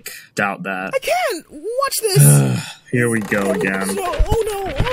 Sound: groan

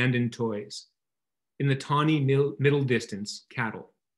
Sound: none

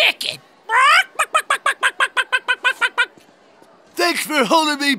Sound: clucking

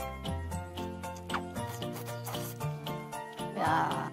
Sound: slurps

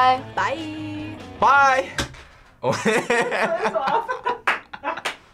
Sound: laughs; claps

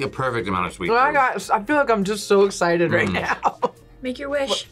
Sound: laughs

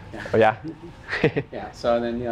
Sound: laughing

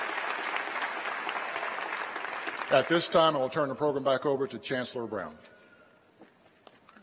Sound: applause

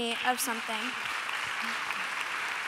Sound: applause

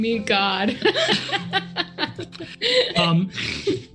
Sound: group laughs

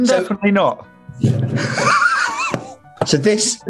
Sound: sniggering

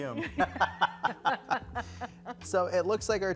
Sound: both laughing

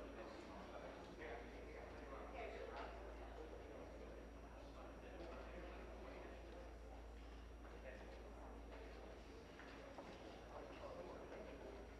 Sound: crowd Noise

